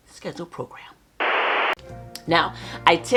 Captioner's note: static noise